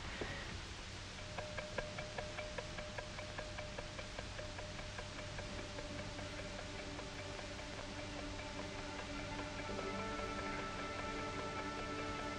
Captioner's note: wristwatch ticking, low music in background